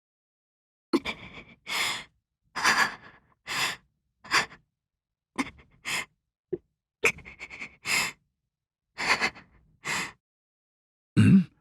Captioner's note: pained panting